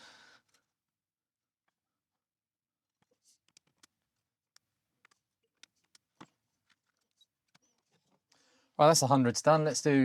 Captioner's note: blank Audio